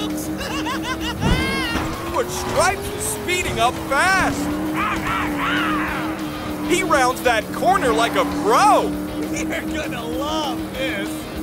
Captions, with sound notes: [laughing] But Stripes is speeding up fas! [roaring] He rounds that corner like a pro! You're gonna love this!